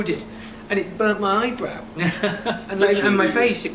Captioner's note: laughs